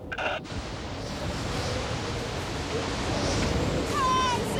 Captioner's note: wind howling; radio buzzing